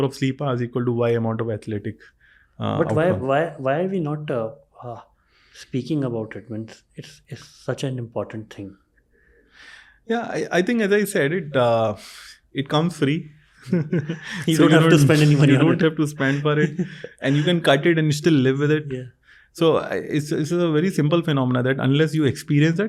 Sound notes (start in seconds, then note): 13.6 chuckles